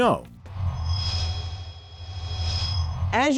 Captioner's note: sound Effects